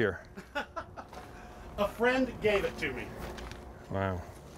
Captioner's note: laughs